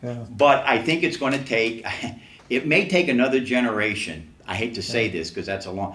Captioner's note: laughs to self